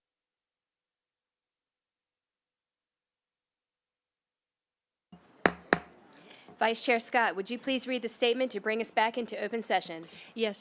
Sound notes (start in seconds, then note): 0.0 silence; 5.4 gavel hitting dais